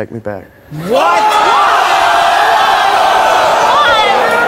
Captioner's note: audience yelling